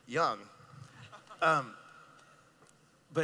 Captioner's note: laughing